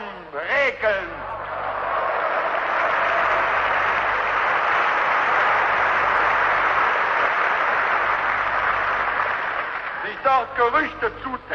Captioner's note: booing,Applause